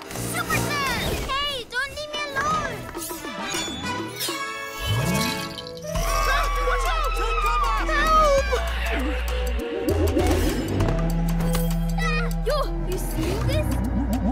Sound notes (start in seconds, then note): 9.5 electronic waves